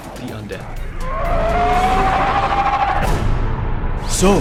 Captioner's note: horde of zombies crying out